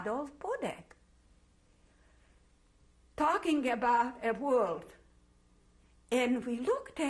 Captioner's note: pauses for 3 seconds